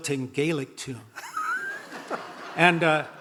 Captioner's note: audience laughing